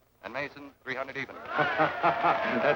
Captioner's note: guests cheer; laughing